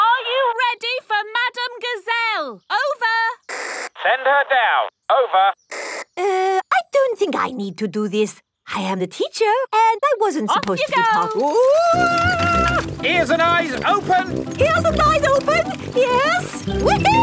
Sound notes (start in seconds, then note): 3.5 walkie-talkie crackles